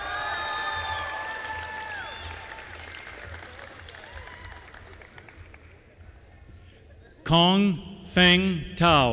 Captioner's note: applause